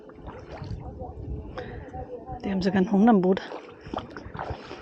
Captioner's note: rustling & distant voices